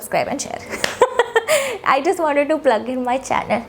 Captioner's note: laughs